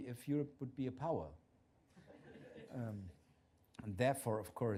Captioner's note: laughter